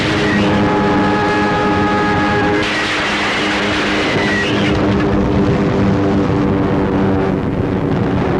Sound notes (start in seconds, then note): 0.0 plane crashing